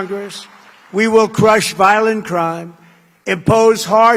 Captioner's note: applause